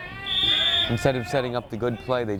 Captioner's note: whistle